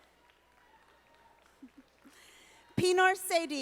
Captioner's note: audience applauding